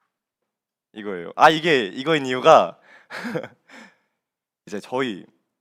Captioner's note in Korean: 헉 소리